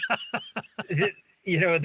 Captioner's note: laughing